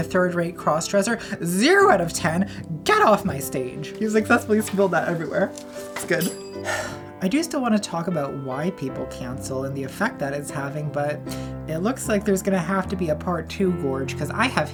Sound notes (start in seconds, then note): 5.8 bell rings; 6.6 sighs